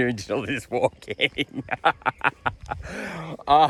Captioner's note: laughing